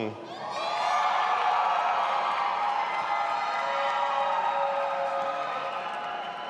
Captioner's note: audience applauding and cheering